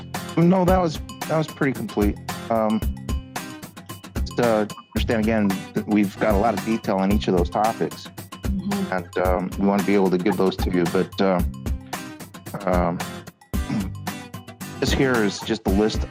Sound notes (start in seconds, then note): 13.6 clears throat